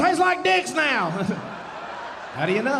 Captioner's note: audience laughing